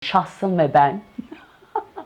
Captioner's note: laugh